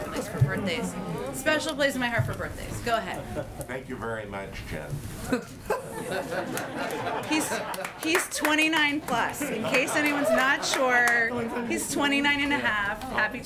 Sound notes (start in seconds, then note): 5.2 laughter